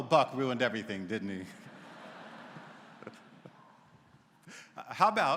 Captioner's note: laughter�